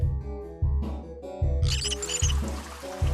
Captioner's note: knob squeaking